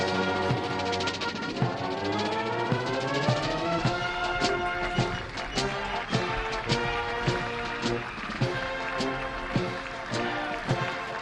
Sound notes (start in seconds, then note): 5.5 applause